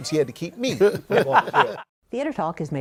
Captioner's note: laughter